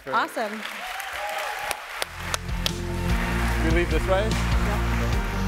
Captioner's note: audience applauding